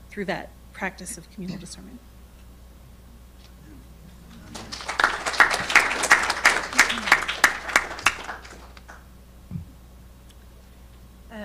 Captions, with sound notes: through that practice of communal discernment. (audience clapping)